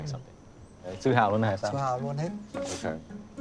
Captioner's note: conversing in Vietnamese